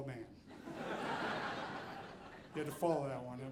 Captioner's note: audience laughing